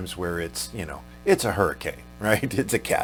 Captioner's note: chuckles